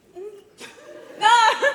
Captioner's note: laughter